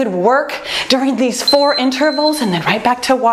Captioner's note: timer beeps